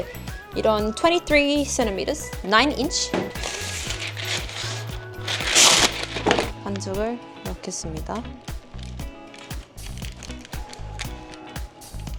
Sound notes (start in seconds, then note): 3.2 tearing parchment with power